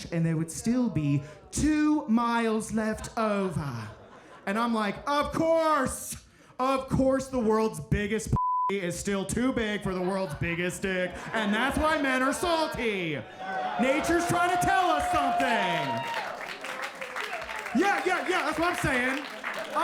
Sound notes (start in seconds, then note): 2.8 audience laughing; 12.6 audience laughing; 13.2 audience cheering; 15.5 audience applauding